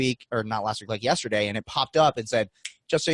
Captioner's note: snapping fingers